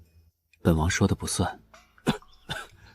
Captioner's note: cough cough